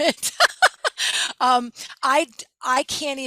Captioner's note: laughing